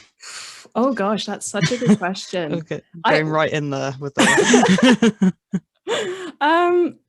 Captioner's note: both laugh